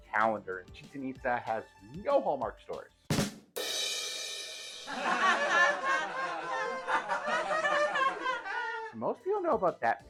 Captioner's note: rim shot and awkward laughter